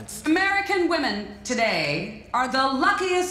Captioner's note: none